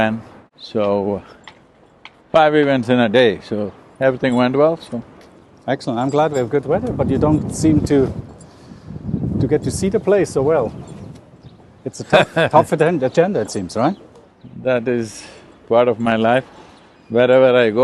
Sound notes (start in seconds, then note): 12.0 Sadhguru laughs